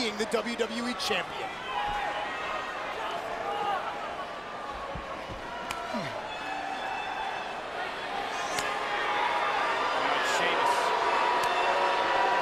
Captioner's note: applause